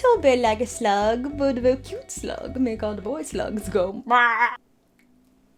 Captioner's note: squawks